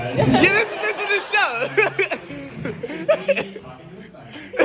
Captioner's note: crowd laughing